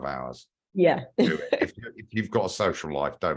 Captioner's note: laugh